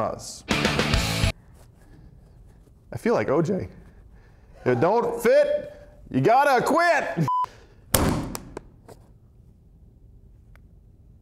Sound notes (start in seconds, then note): 7.2 beep